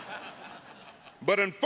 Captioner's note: audience laughing